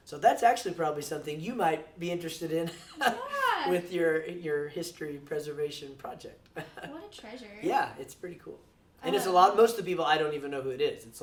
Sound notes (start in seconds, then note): 2.9 laughs; 6.4 chuckles